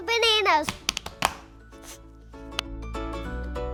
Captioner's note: banging; lively music